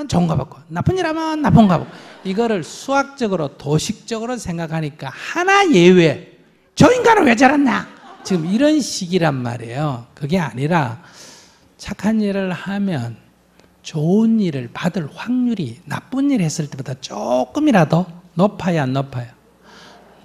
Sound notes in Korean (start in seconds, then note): 7.7 청중 웃음